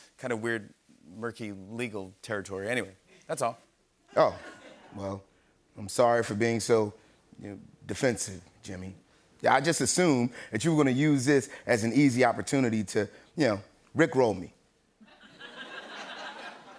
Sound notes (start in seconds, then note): 4.1 laughter; 15.0 laughter